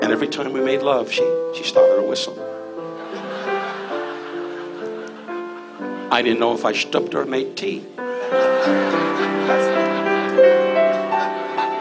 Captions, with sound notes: And every time we made love, she started to whistle. (audience laughs) I didn't know if I schtupped her or made tea. (audience laughs)